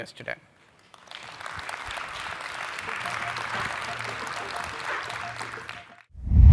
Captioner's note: applause